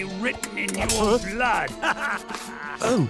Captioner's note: evil laughter